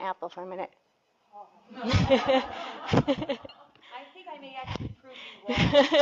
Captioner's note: laughter